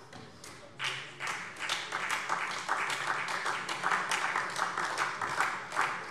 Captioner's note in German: Beifall SPD